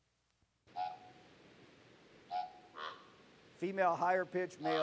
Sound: bird Sound

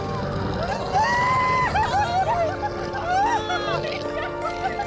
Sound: screams

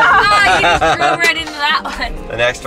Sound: laughing

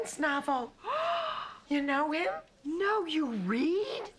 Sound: gasps

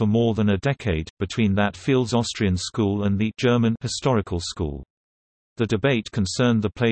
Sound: German

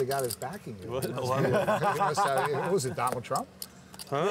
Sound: laughter

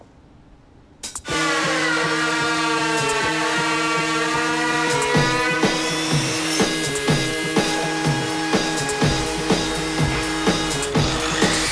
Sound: saws whirring & buzzing

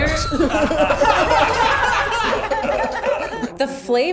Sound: crew laughing

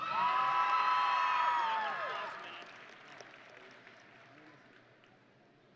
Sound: audience and graduates cheering

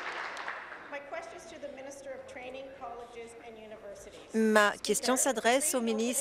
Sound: applause

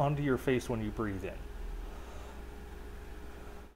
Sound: breathes

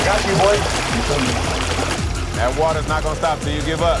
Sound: water drowns out speaker

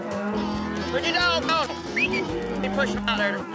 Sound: whistles

